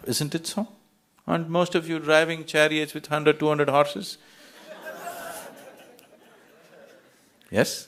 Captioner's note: يضحك